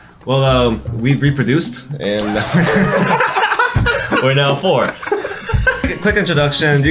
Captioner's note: all laughing